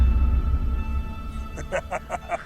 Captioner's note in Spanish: Risas